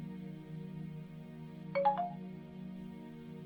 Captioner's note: new incoming message sound